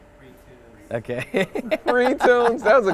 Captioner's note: laughs